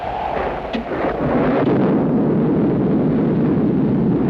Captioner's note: thunder cracks